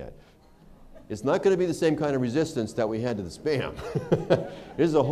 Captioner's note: laughter